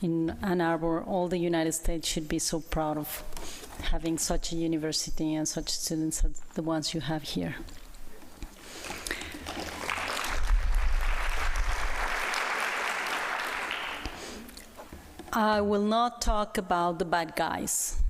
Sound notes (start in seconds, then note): 11.4 applause